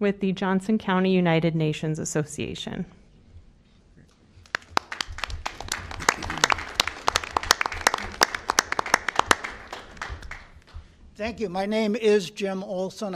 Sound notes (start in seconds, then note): 2.9 applause